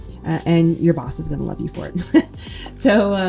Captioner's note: laughs